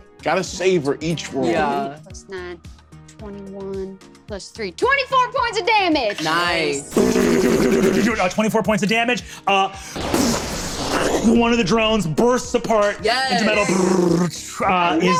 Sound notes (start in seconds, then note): 6.4 vocalizes gunfire; 9.9 vocalizes an explosion